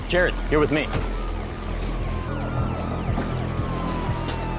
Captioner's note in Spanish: Sirenas de ambulancia